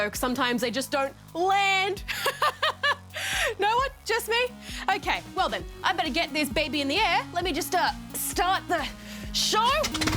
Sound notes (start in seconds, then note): 2.2 laughs; 9.8 propeller whirrs